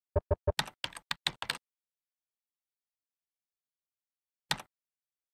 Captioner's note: keyboard clicking